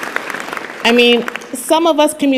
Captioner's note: applause